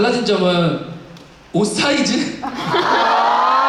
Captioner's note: chuckles